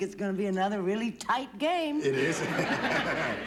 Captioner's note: chuckles